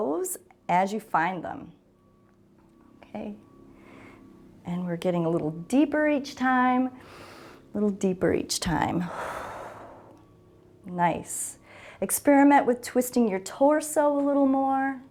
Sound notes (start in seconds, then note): 7.0 inhales; 9.0 exhales